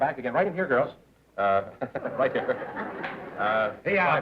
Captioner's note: laughter